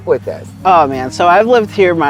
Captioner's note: pat